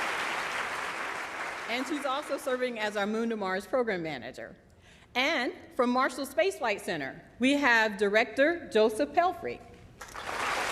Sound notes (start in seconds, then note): 2.6 applause